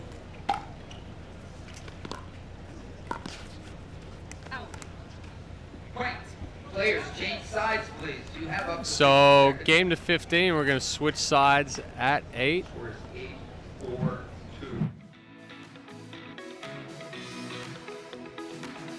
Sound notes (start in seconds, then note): 8.2 announcer talks over speaker; 15.1 light peaceful music